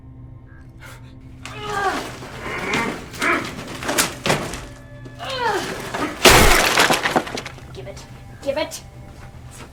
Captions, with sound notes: (Wilhelmina blows) (Shaina and Vincent grunting) - Give it, give it.